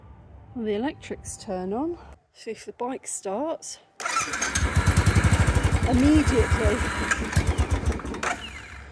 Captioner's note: engine starts